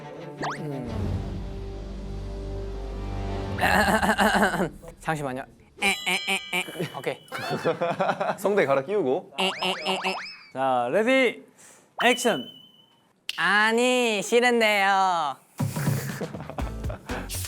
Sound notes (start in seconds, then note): 3.6 Clearing his voice for the Puppy-cat tone